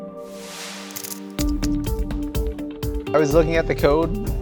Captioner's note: typewriter keys clicking